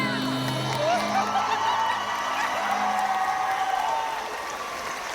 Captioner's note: crowd cheers